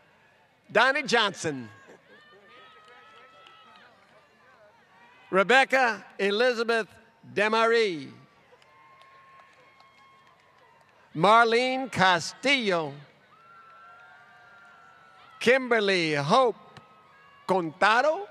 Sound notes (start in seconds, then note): 2.4 applause; 10.7 applause